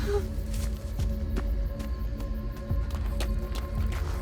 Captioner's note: feet pattering